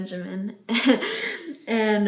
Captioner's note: chuckles